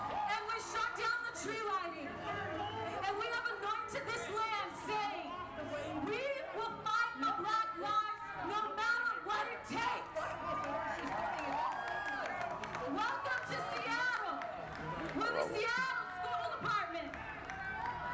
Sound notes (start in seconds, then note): 9.8 applause